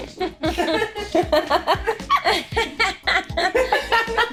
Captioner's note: laughing